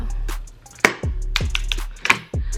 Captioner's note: fairly intense tapping